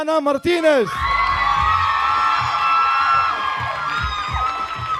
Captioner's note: audience cheering